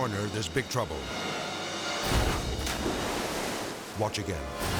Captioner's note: intense music; water splashes